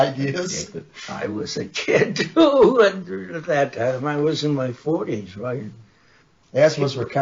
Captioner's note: laughs